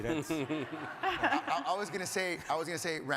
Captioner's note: laughs